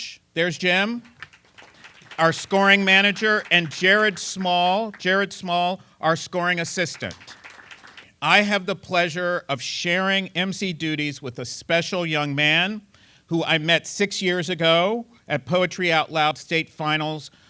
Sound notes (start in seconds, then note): 0.7 applause